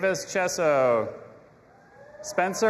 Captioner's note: audience applauding and cheering